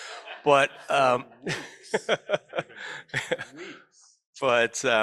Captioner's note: laughter